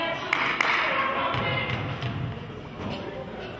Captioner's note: clapping